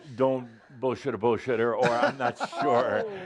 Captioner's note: laughs